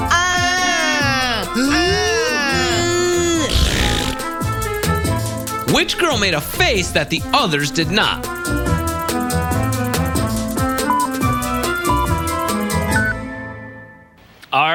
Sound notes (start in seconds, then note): 1.5 blowing; 5.6 blowing; 5.6 yelling; 5.6 blowing